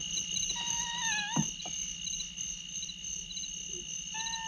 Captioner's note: kitten mewling